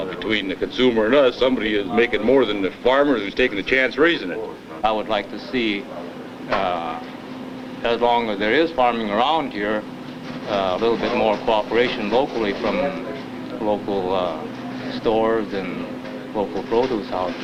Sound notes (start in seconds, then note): none